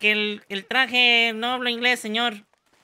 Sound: spanish gibberish

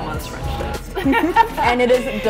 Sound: both laugh

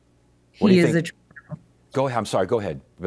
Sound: audio distorts

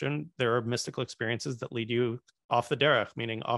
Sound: hebrew

